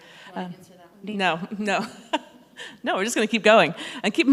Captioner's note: laughs